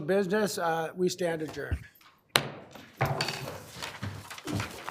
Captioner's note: gavel banging